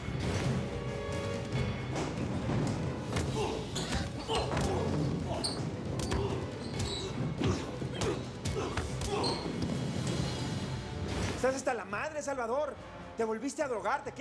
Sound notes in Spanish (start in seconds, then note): 3.1 ruidos de la lucha